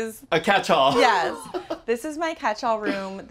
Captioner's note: laughs